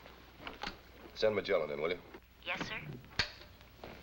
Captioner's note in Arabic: تعليق صوتي